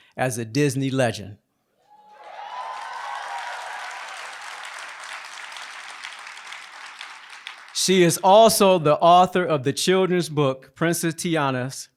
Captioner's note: applause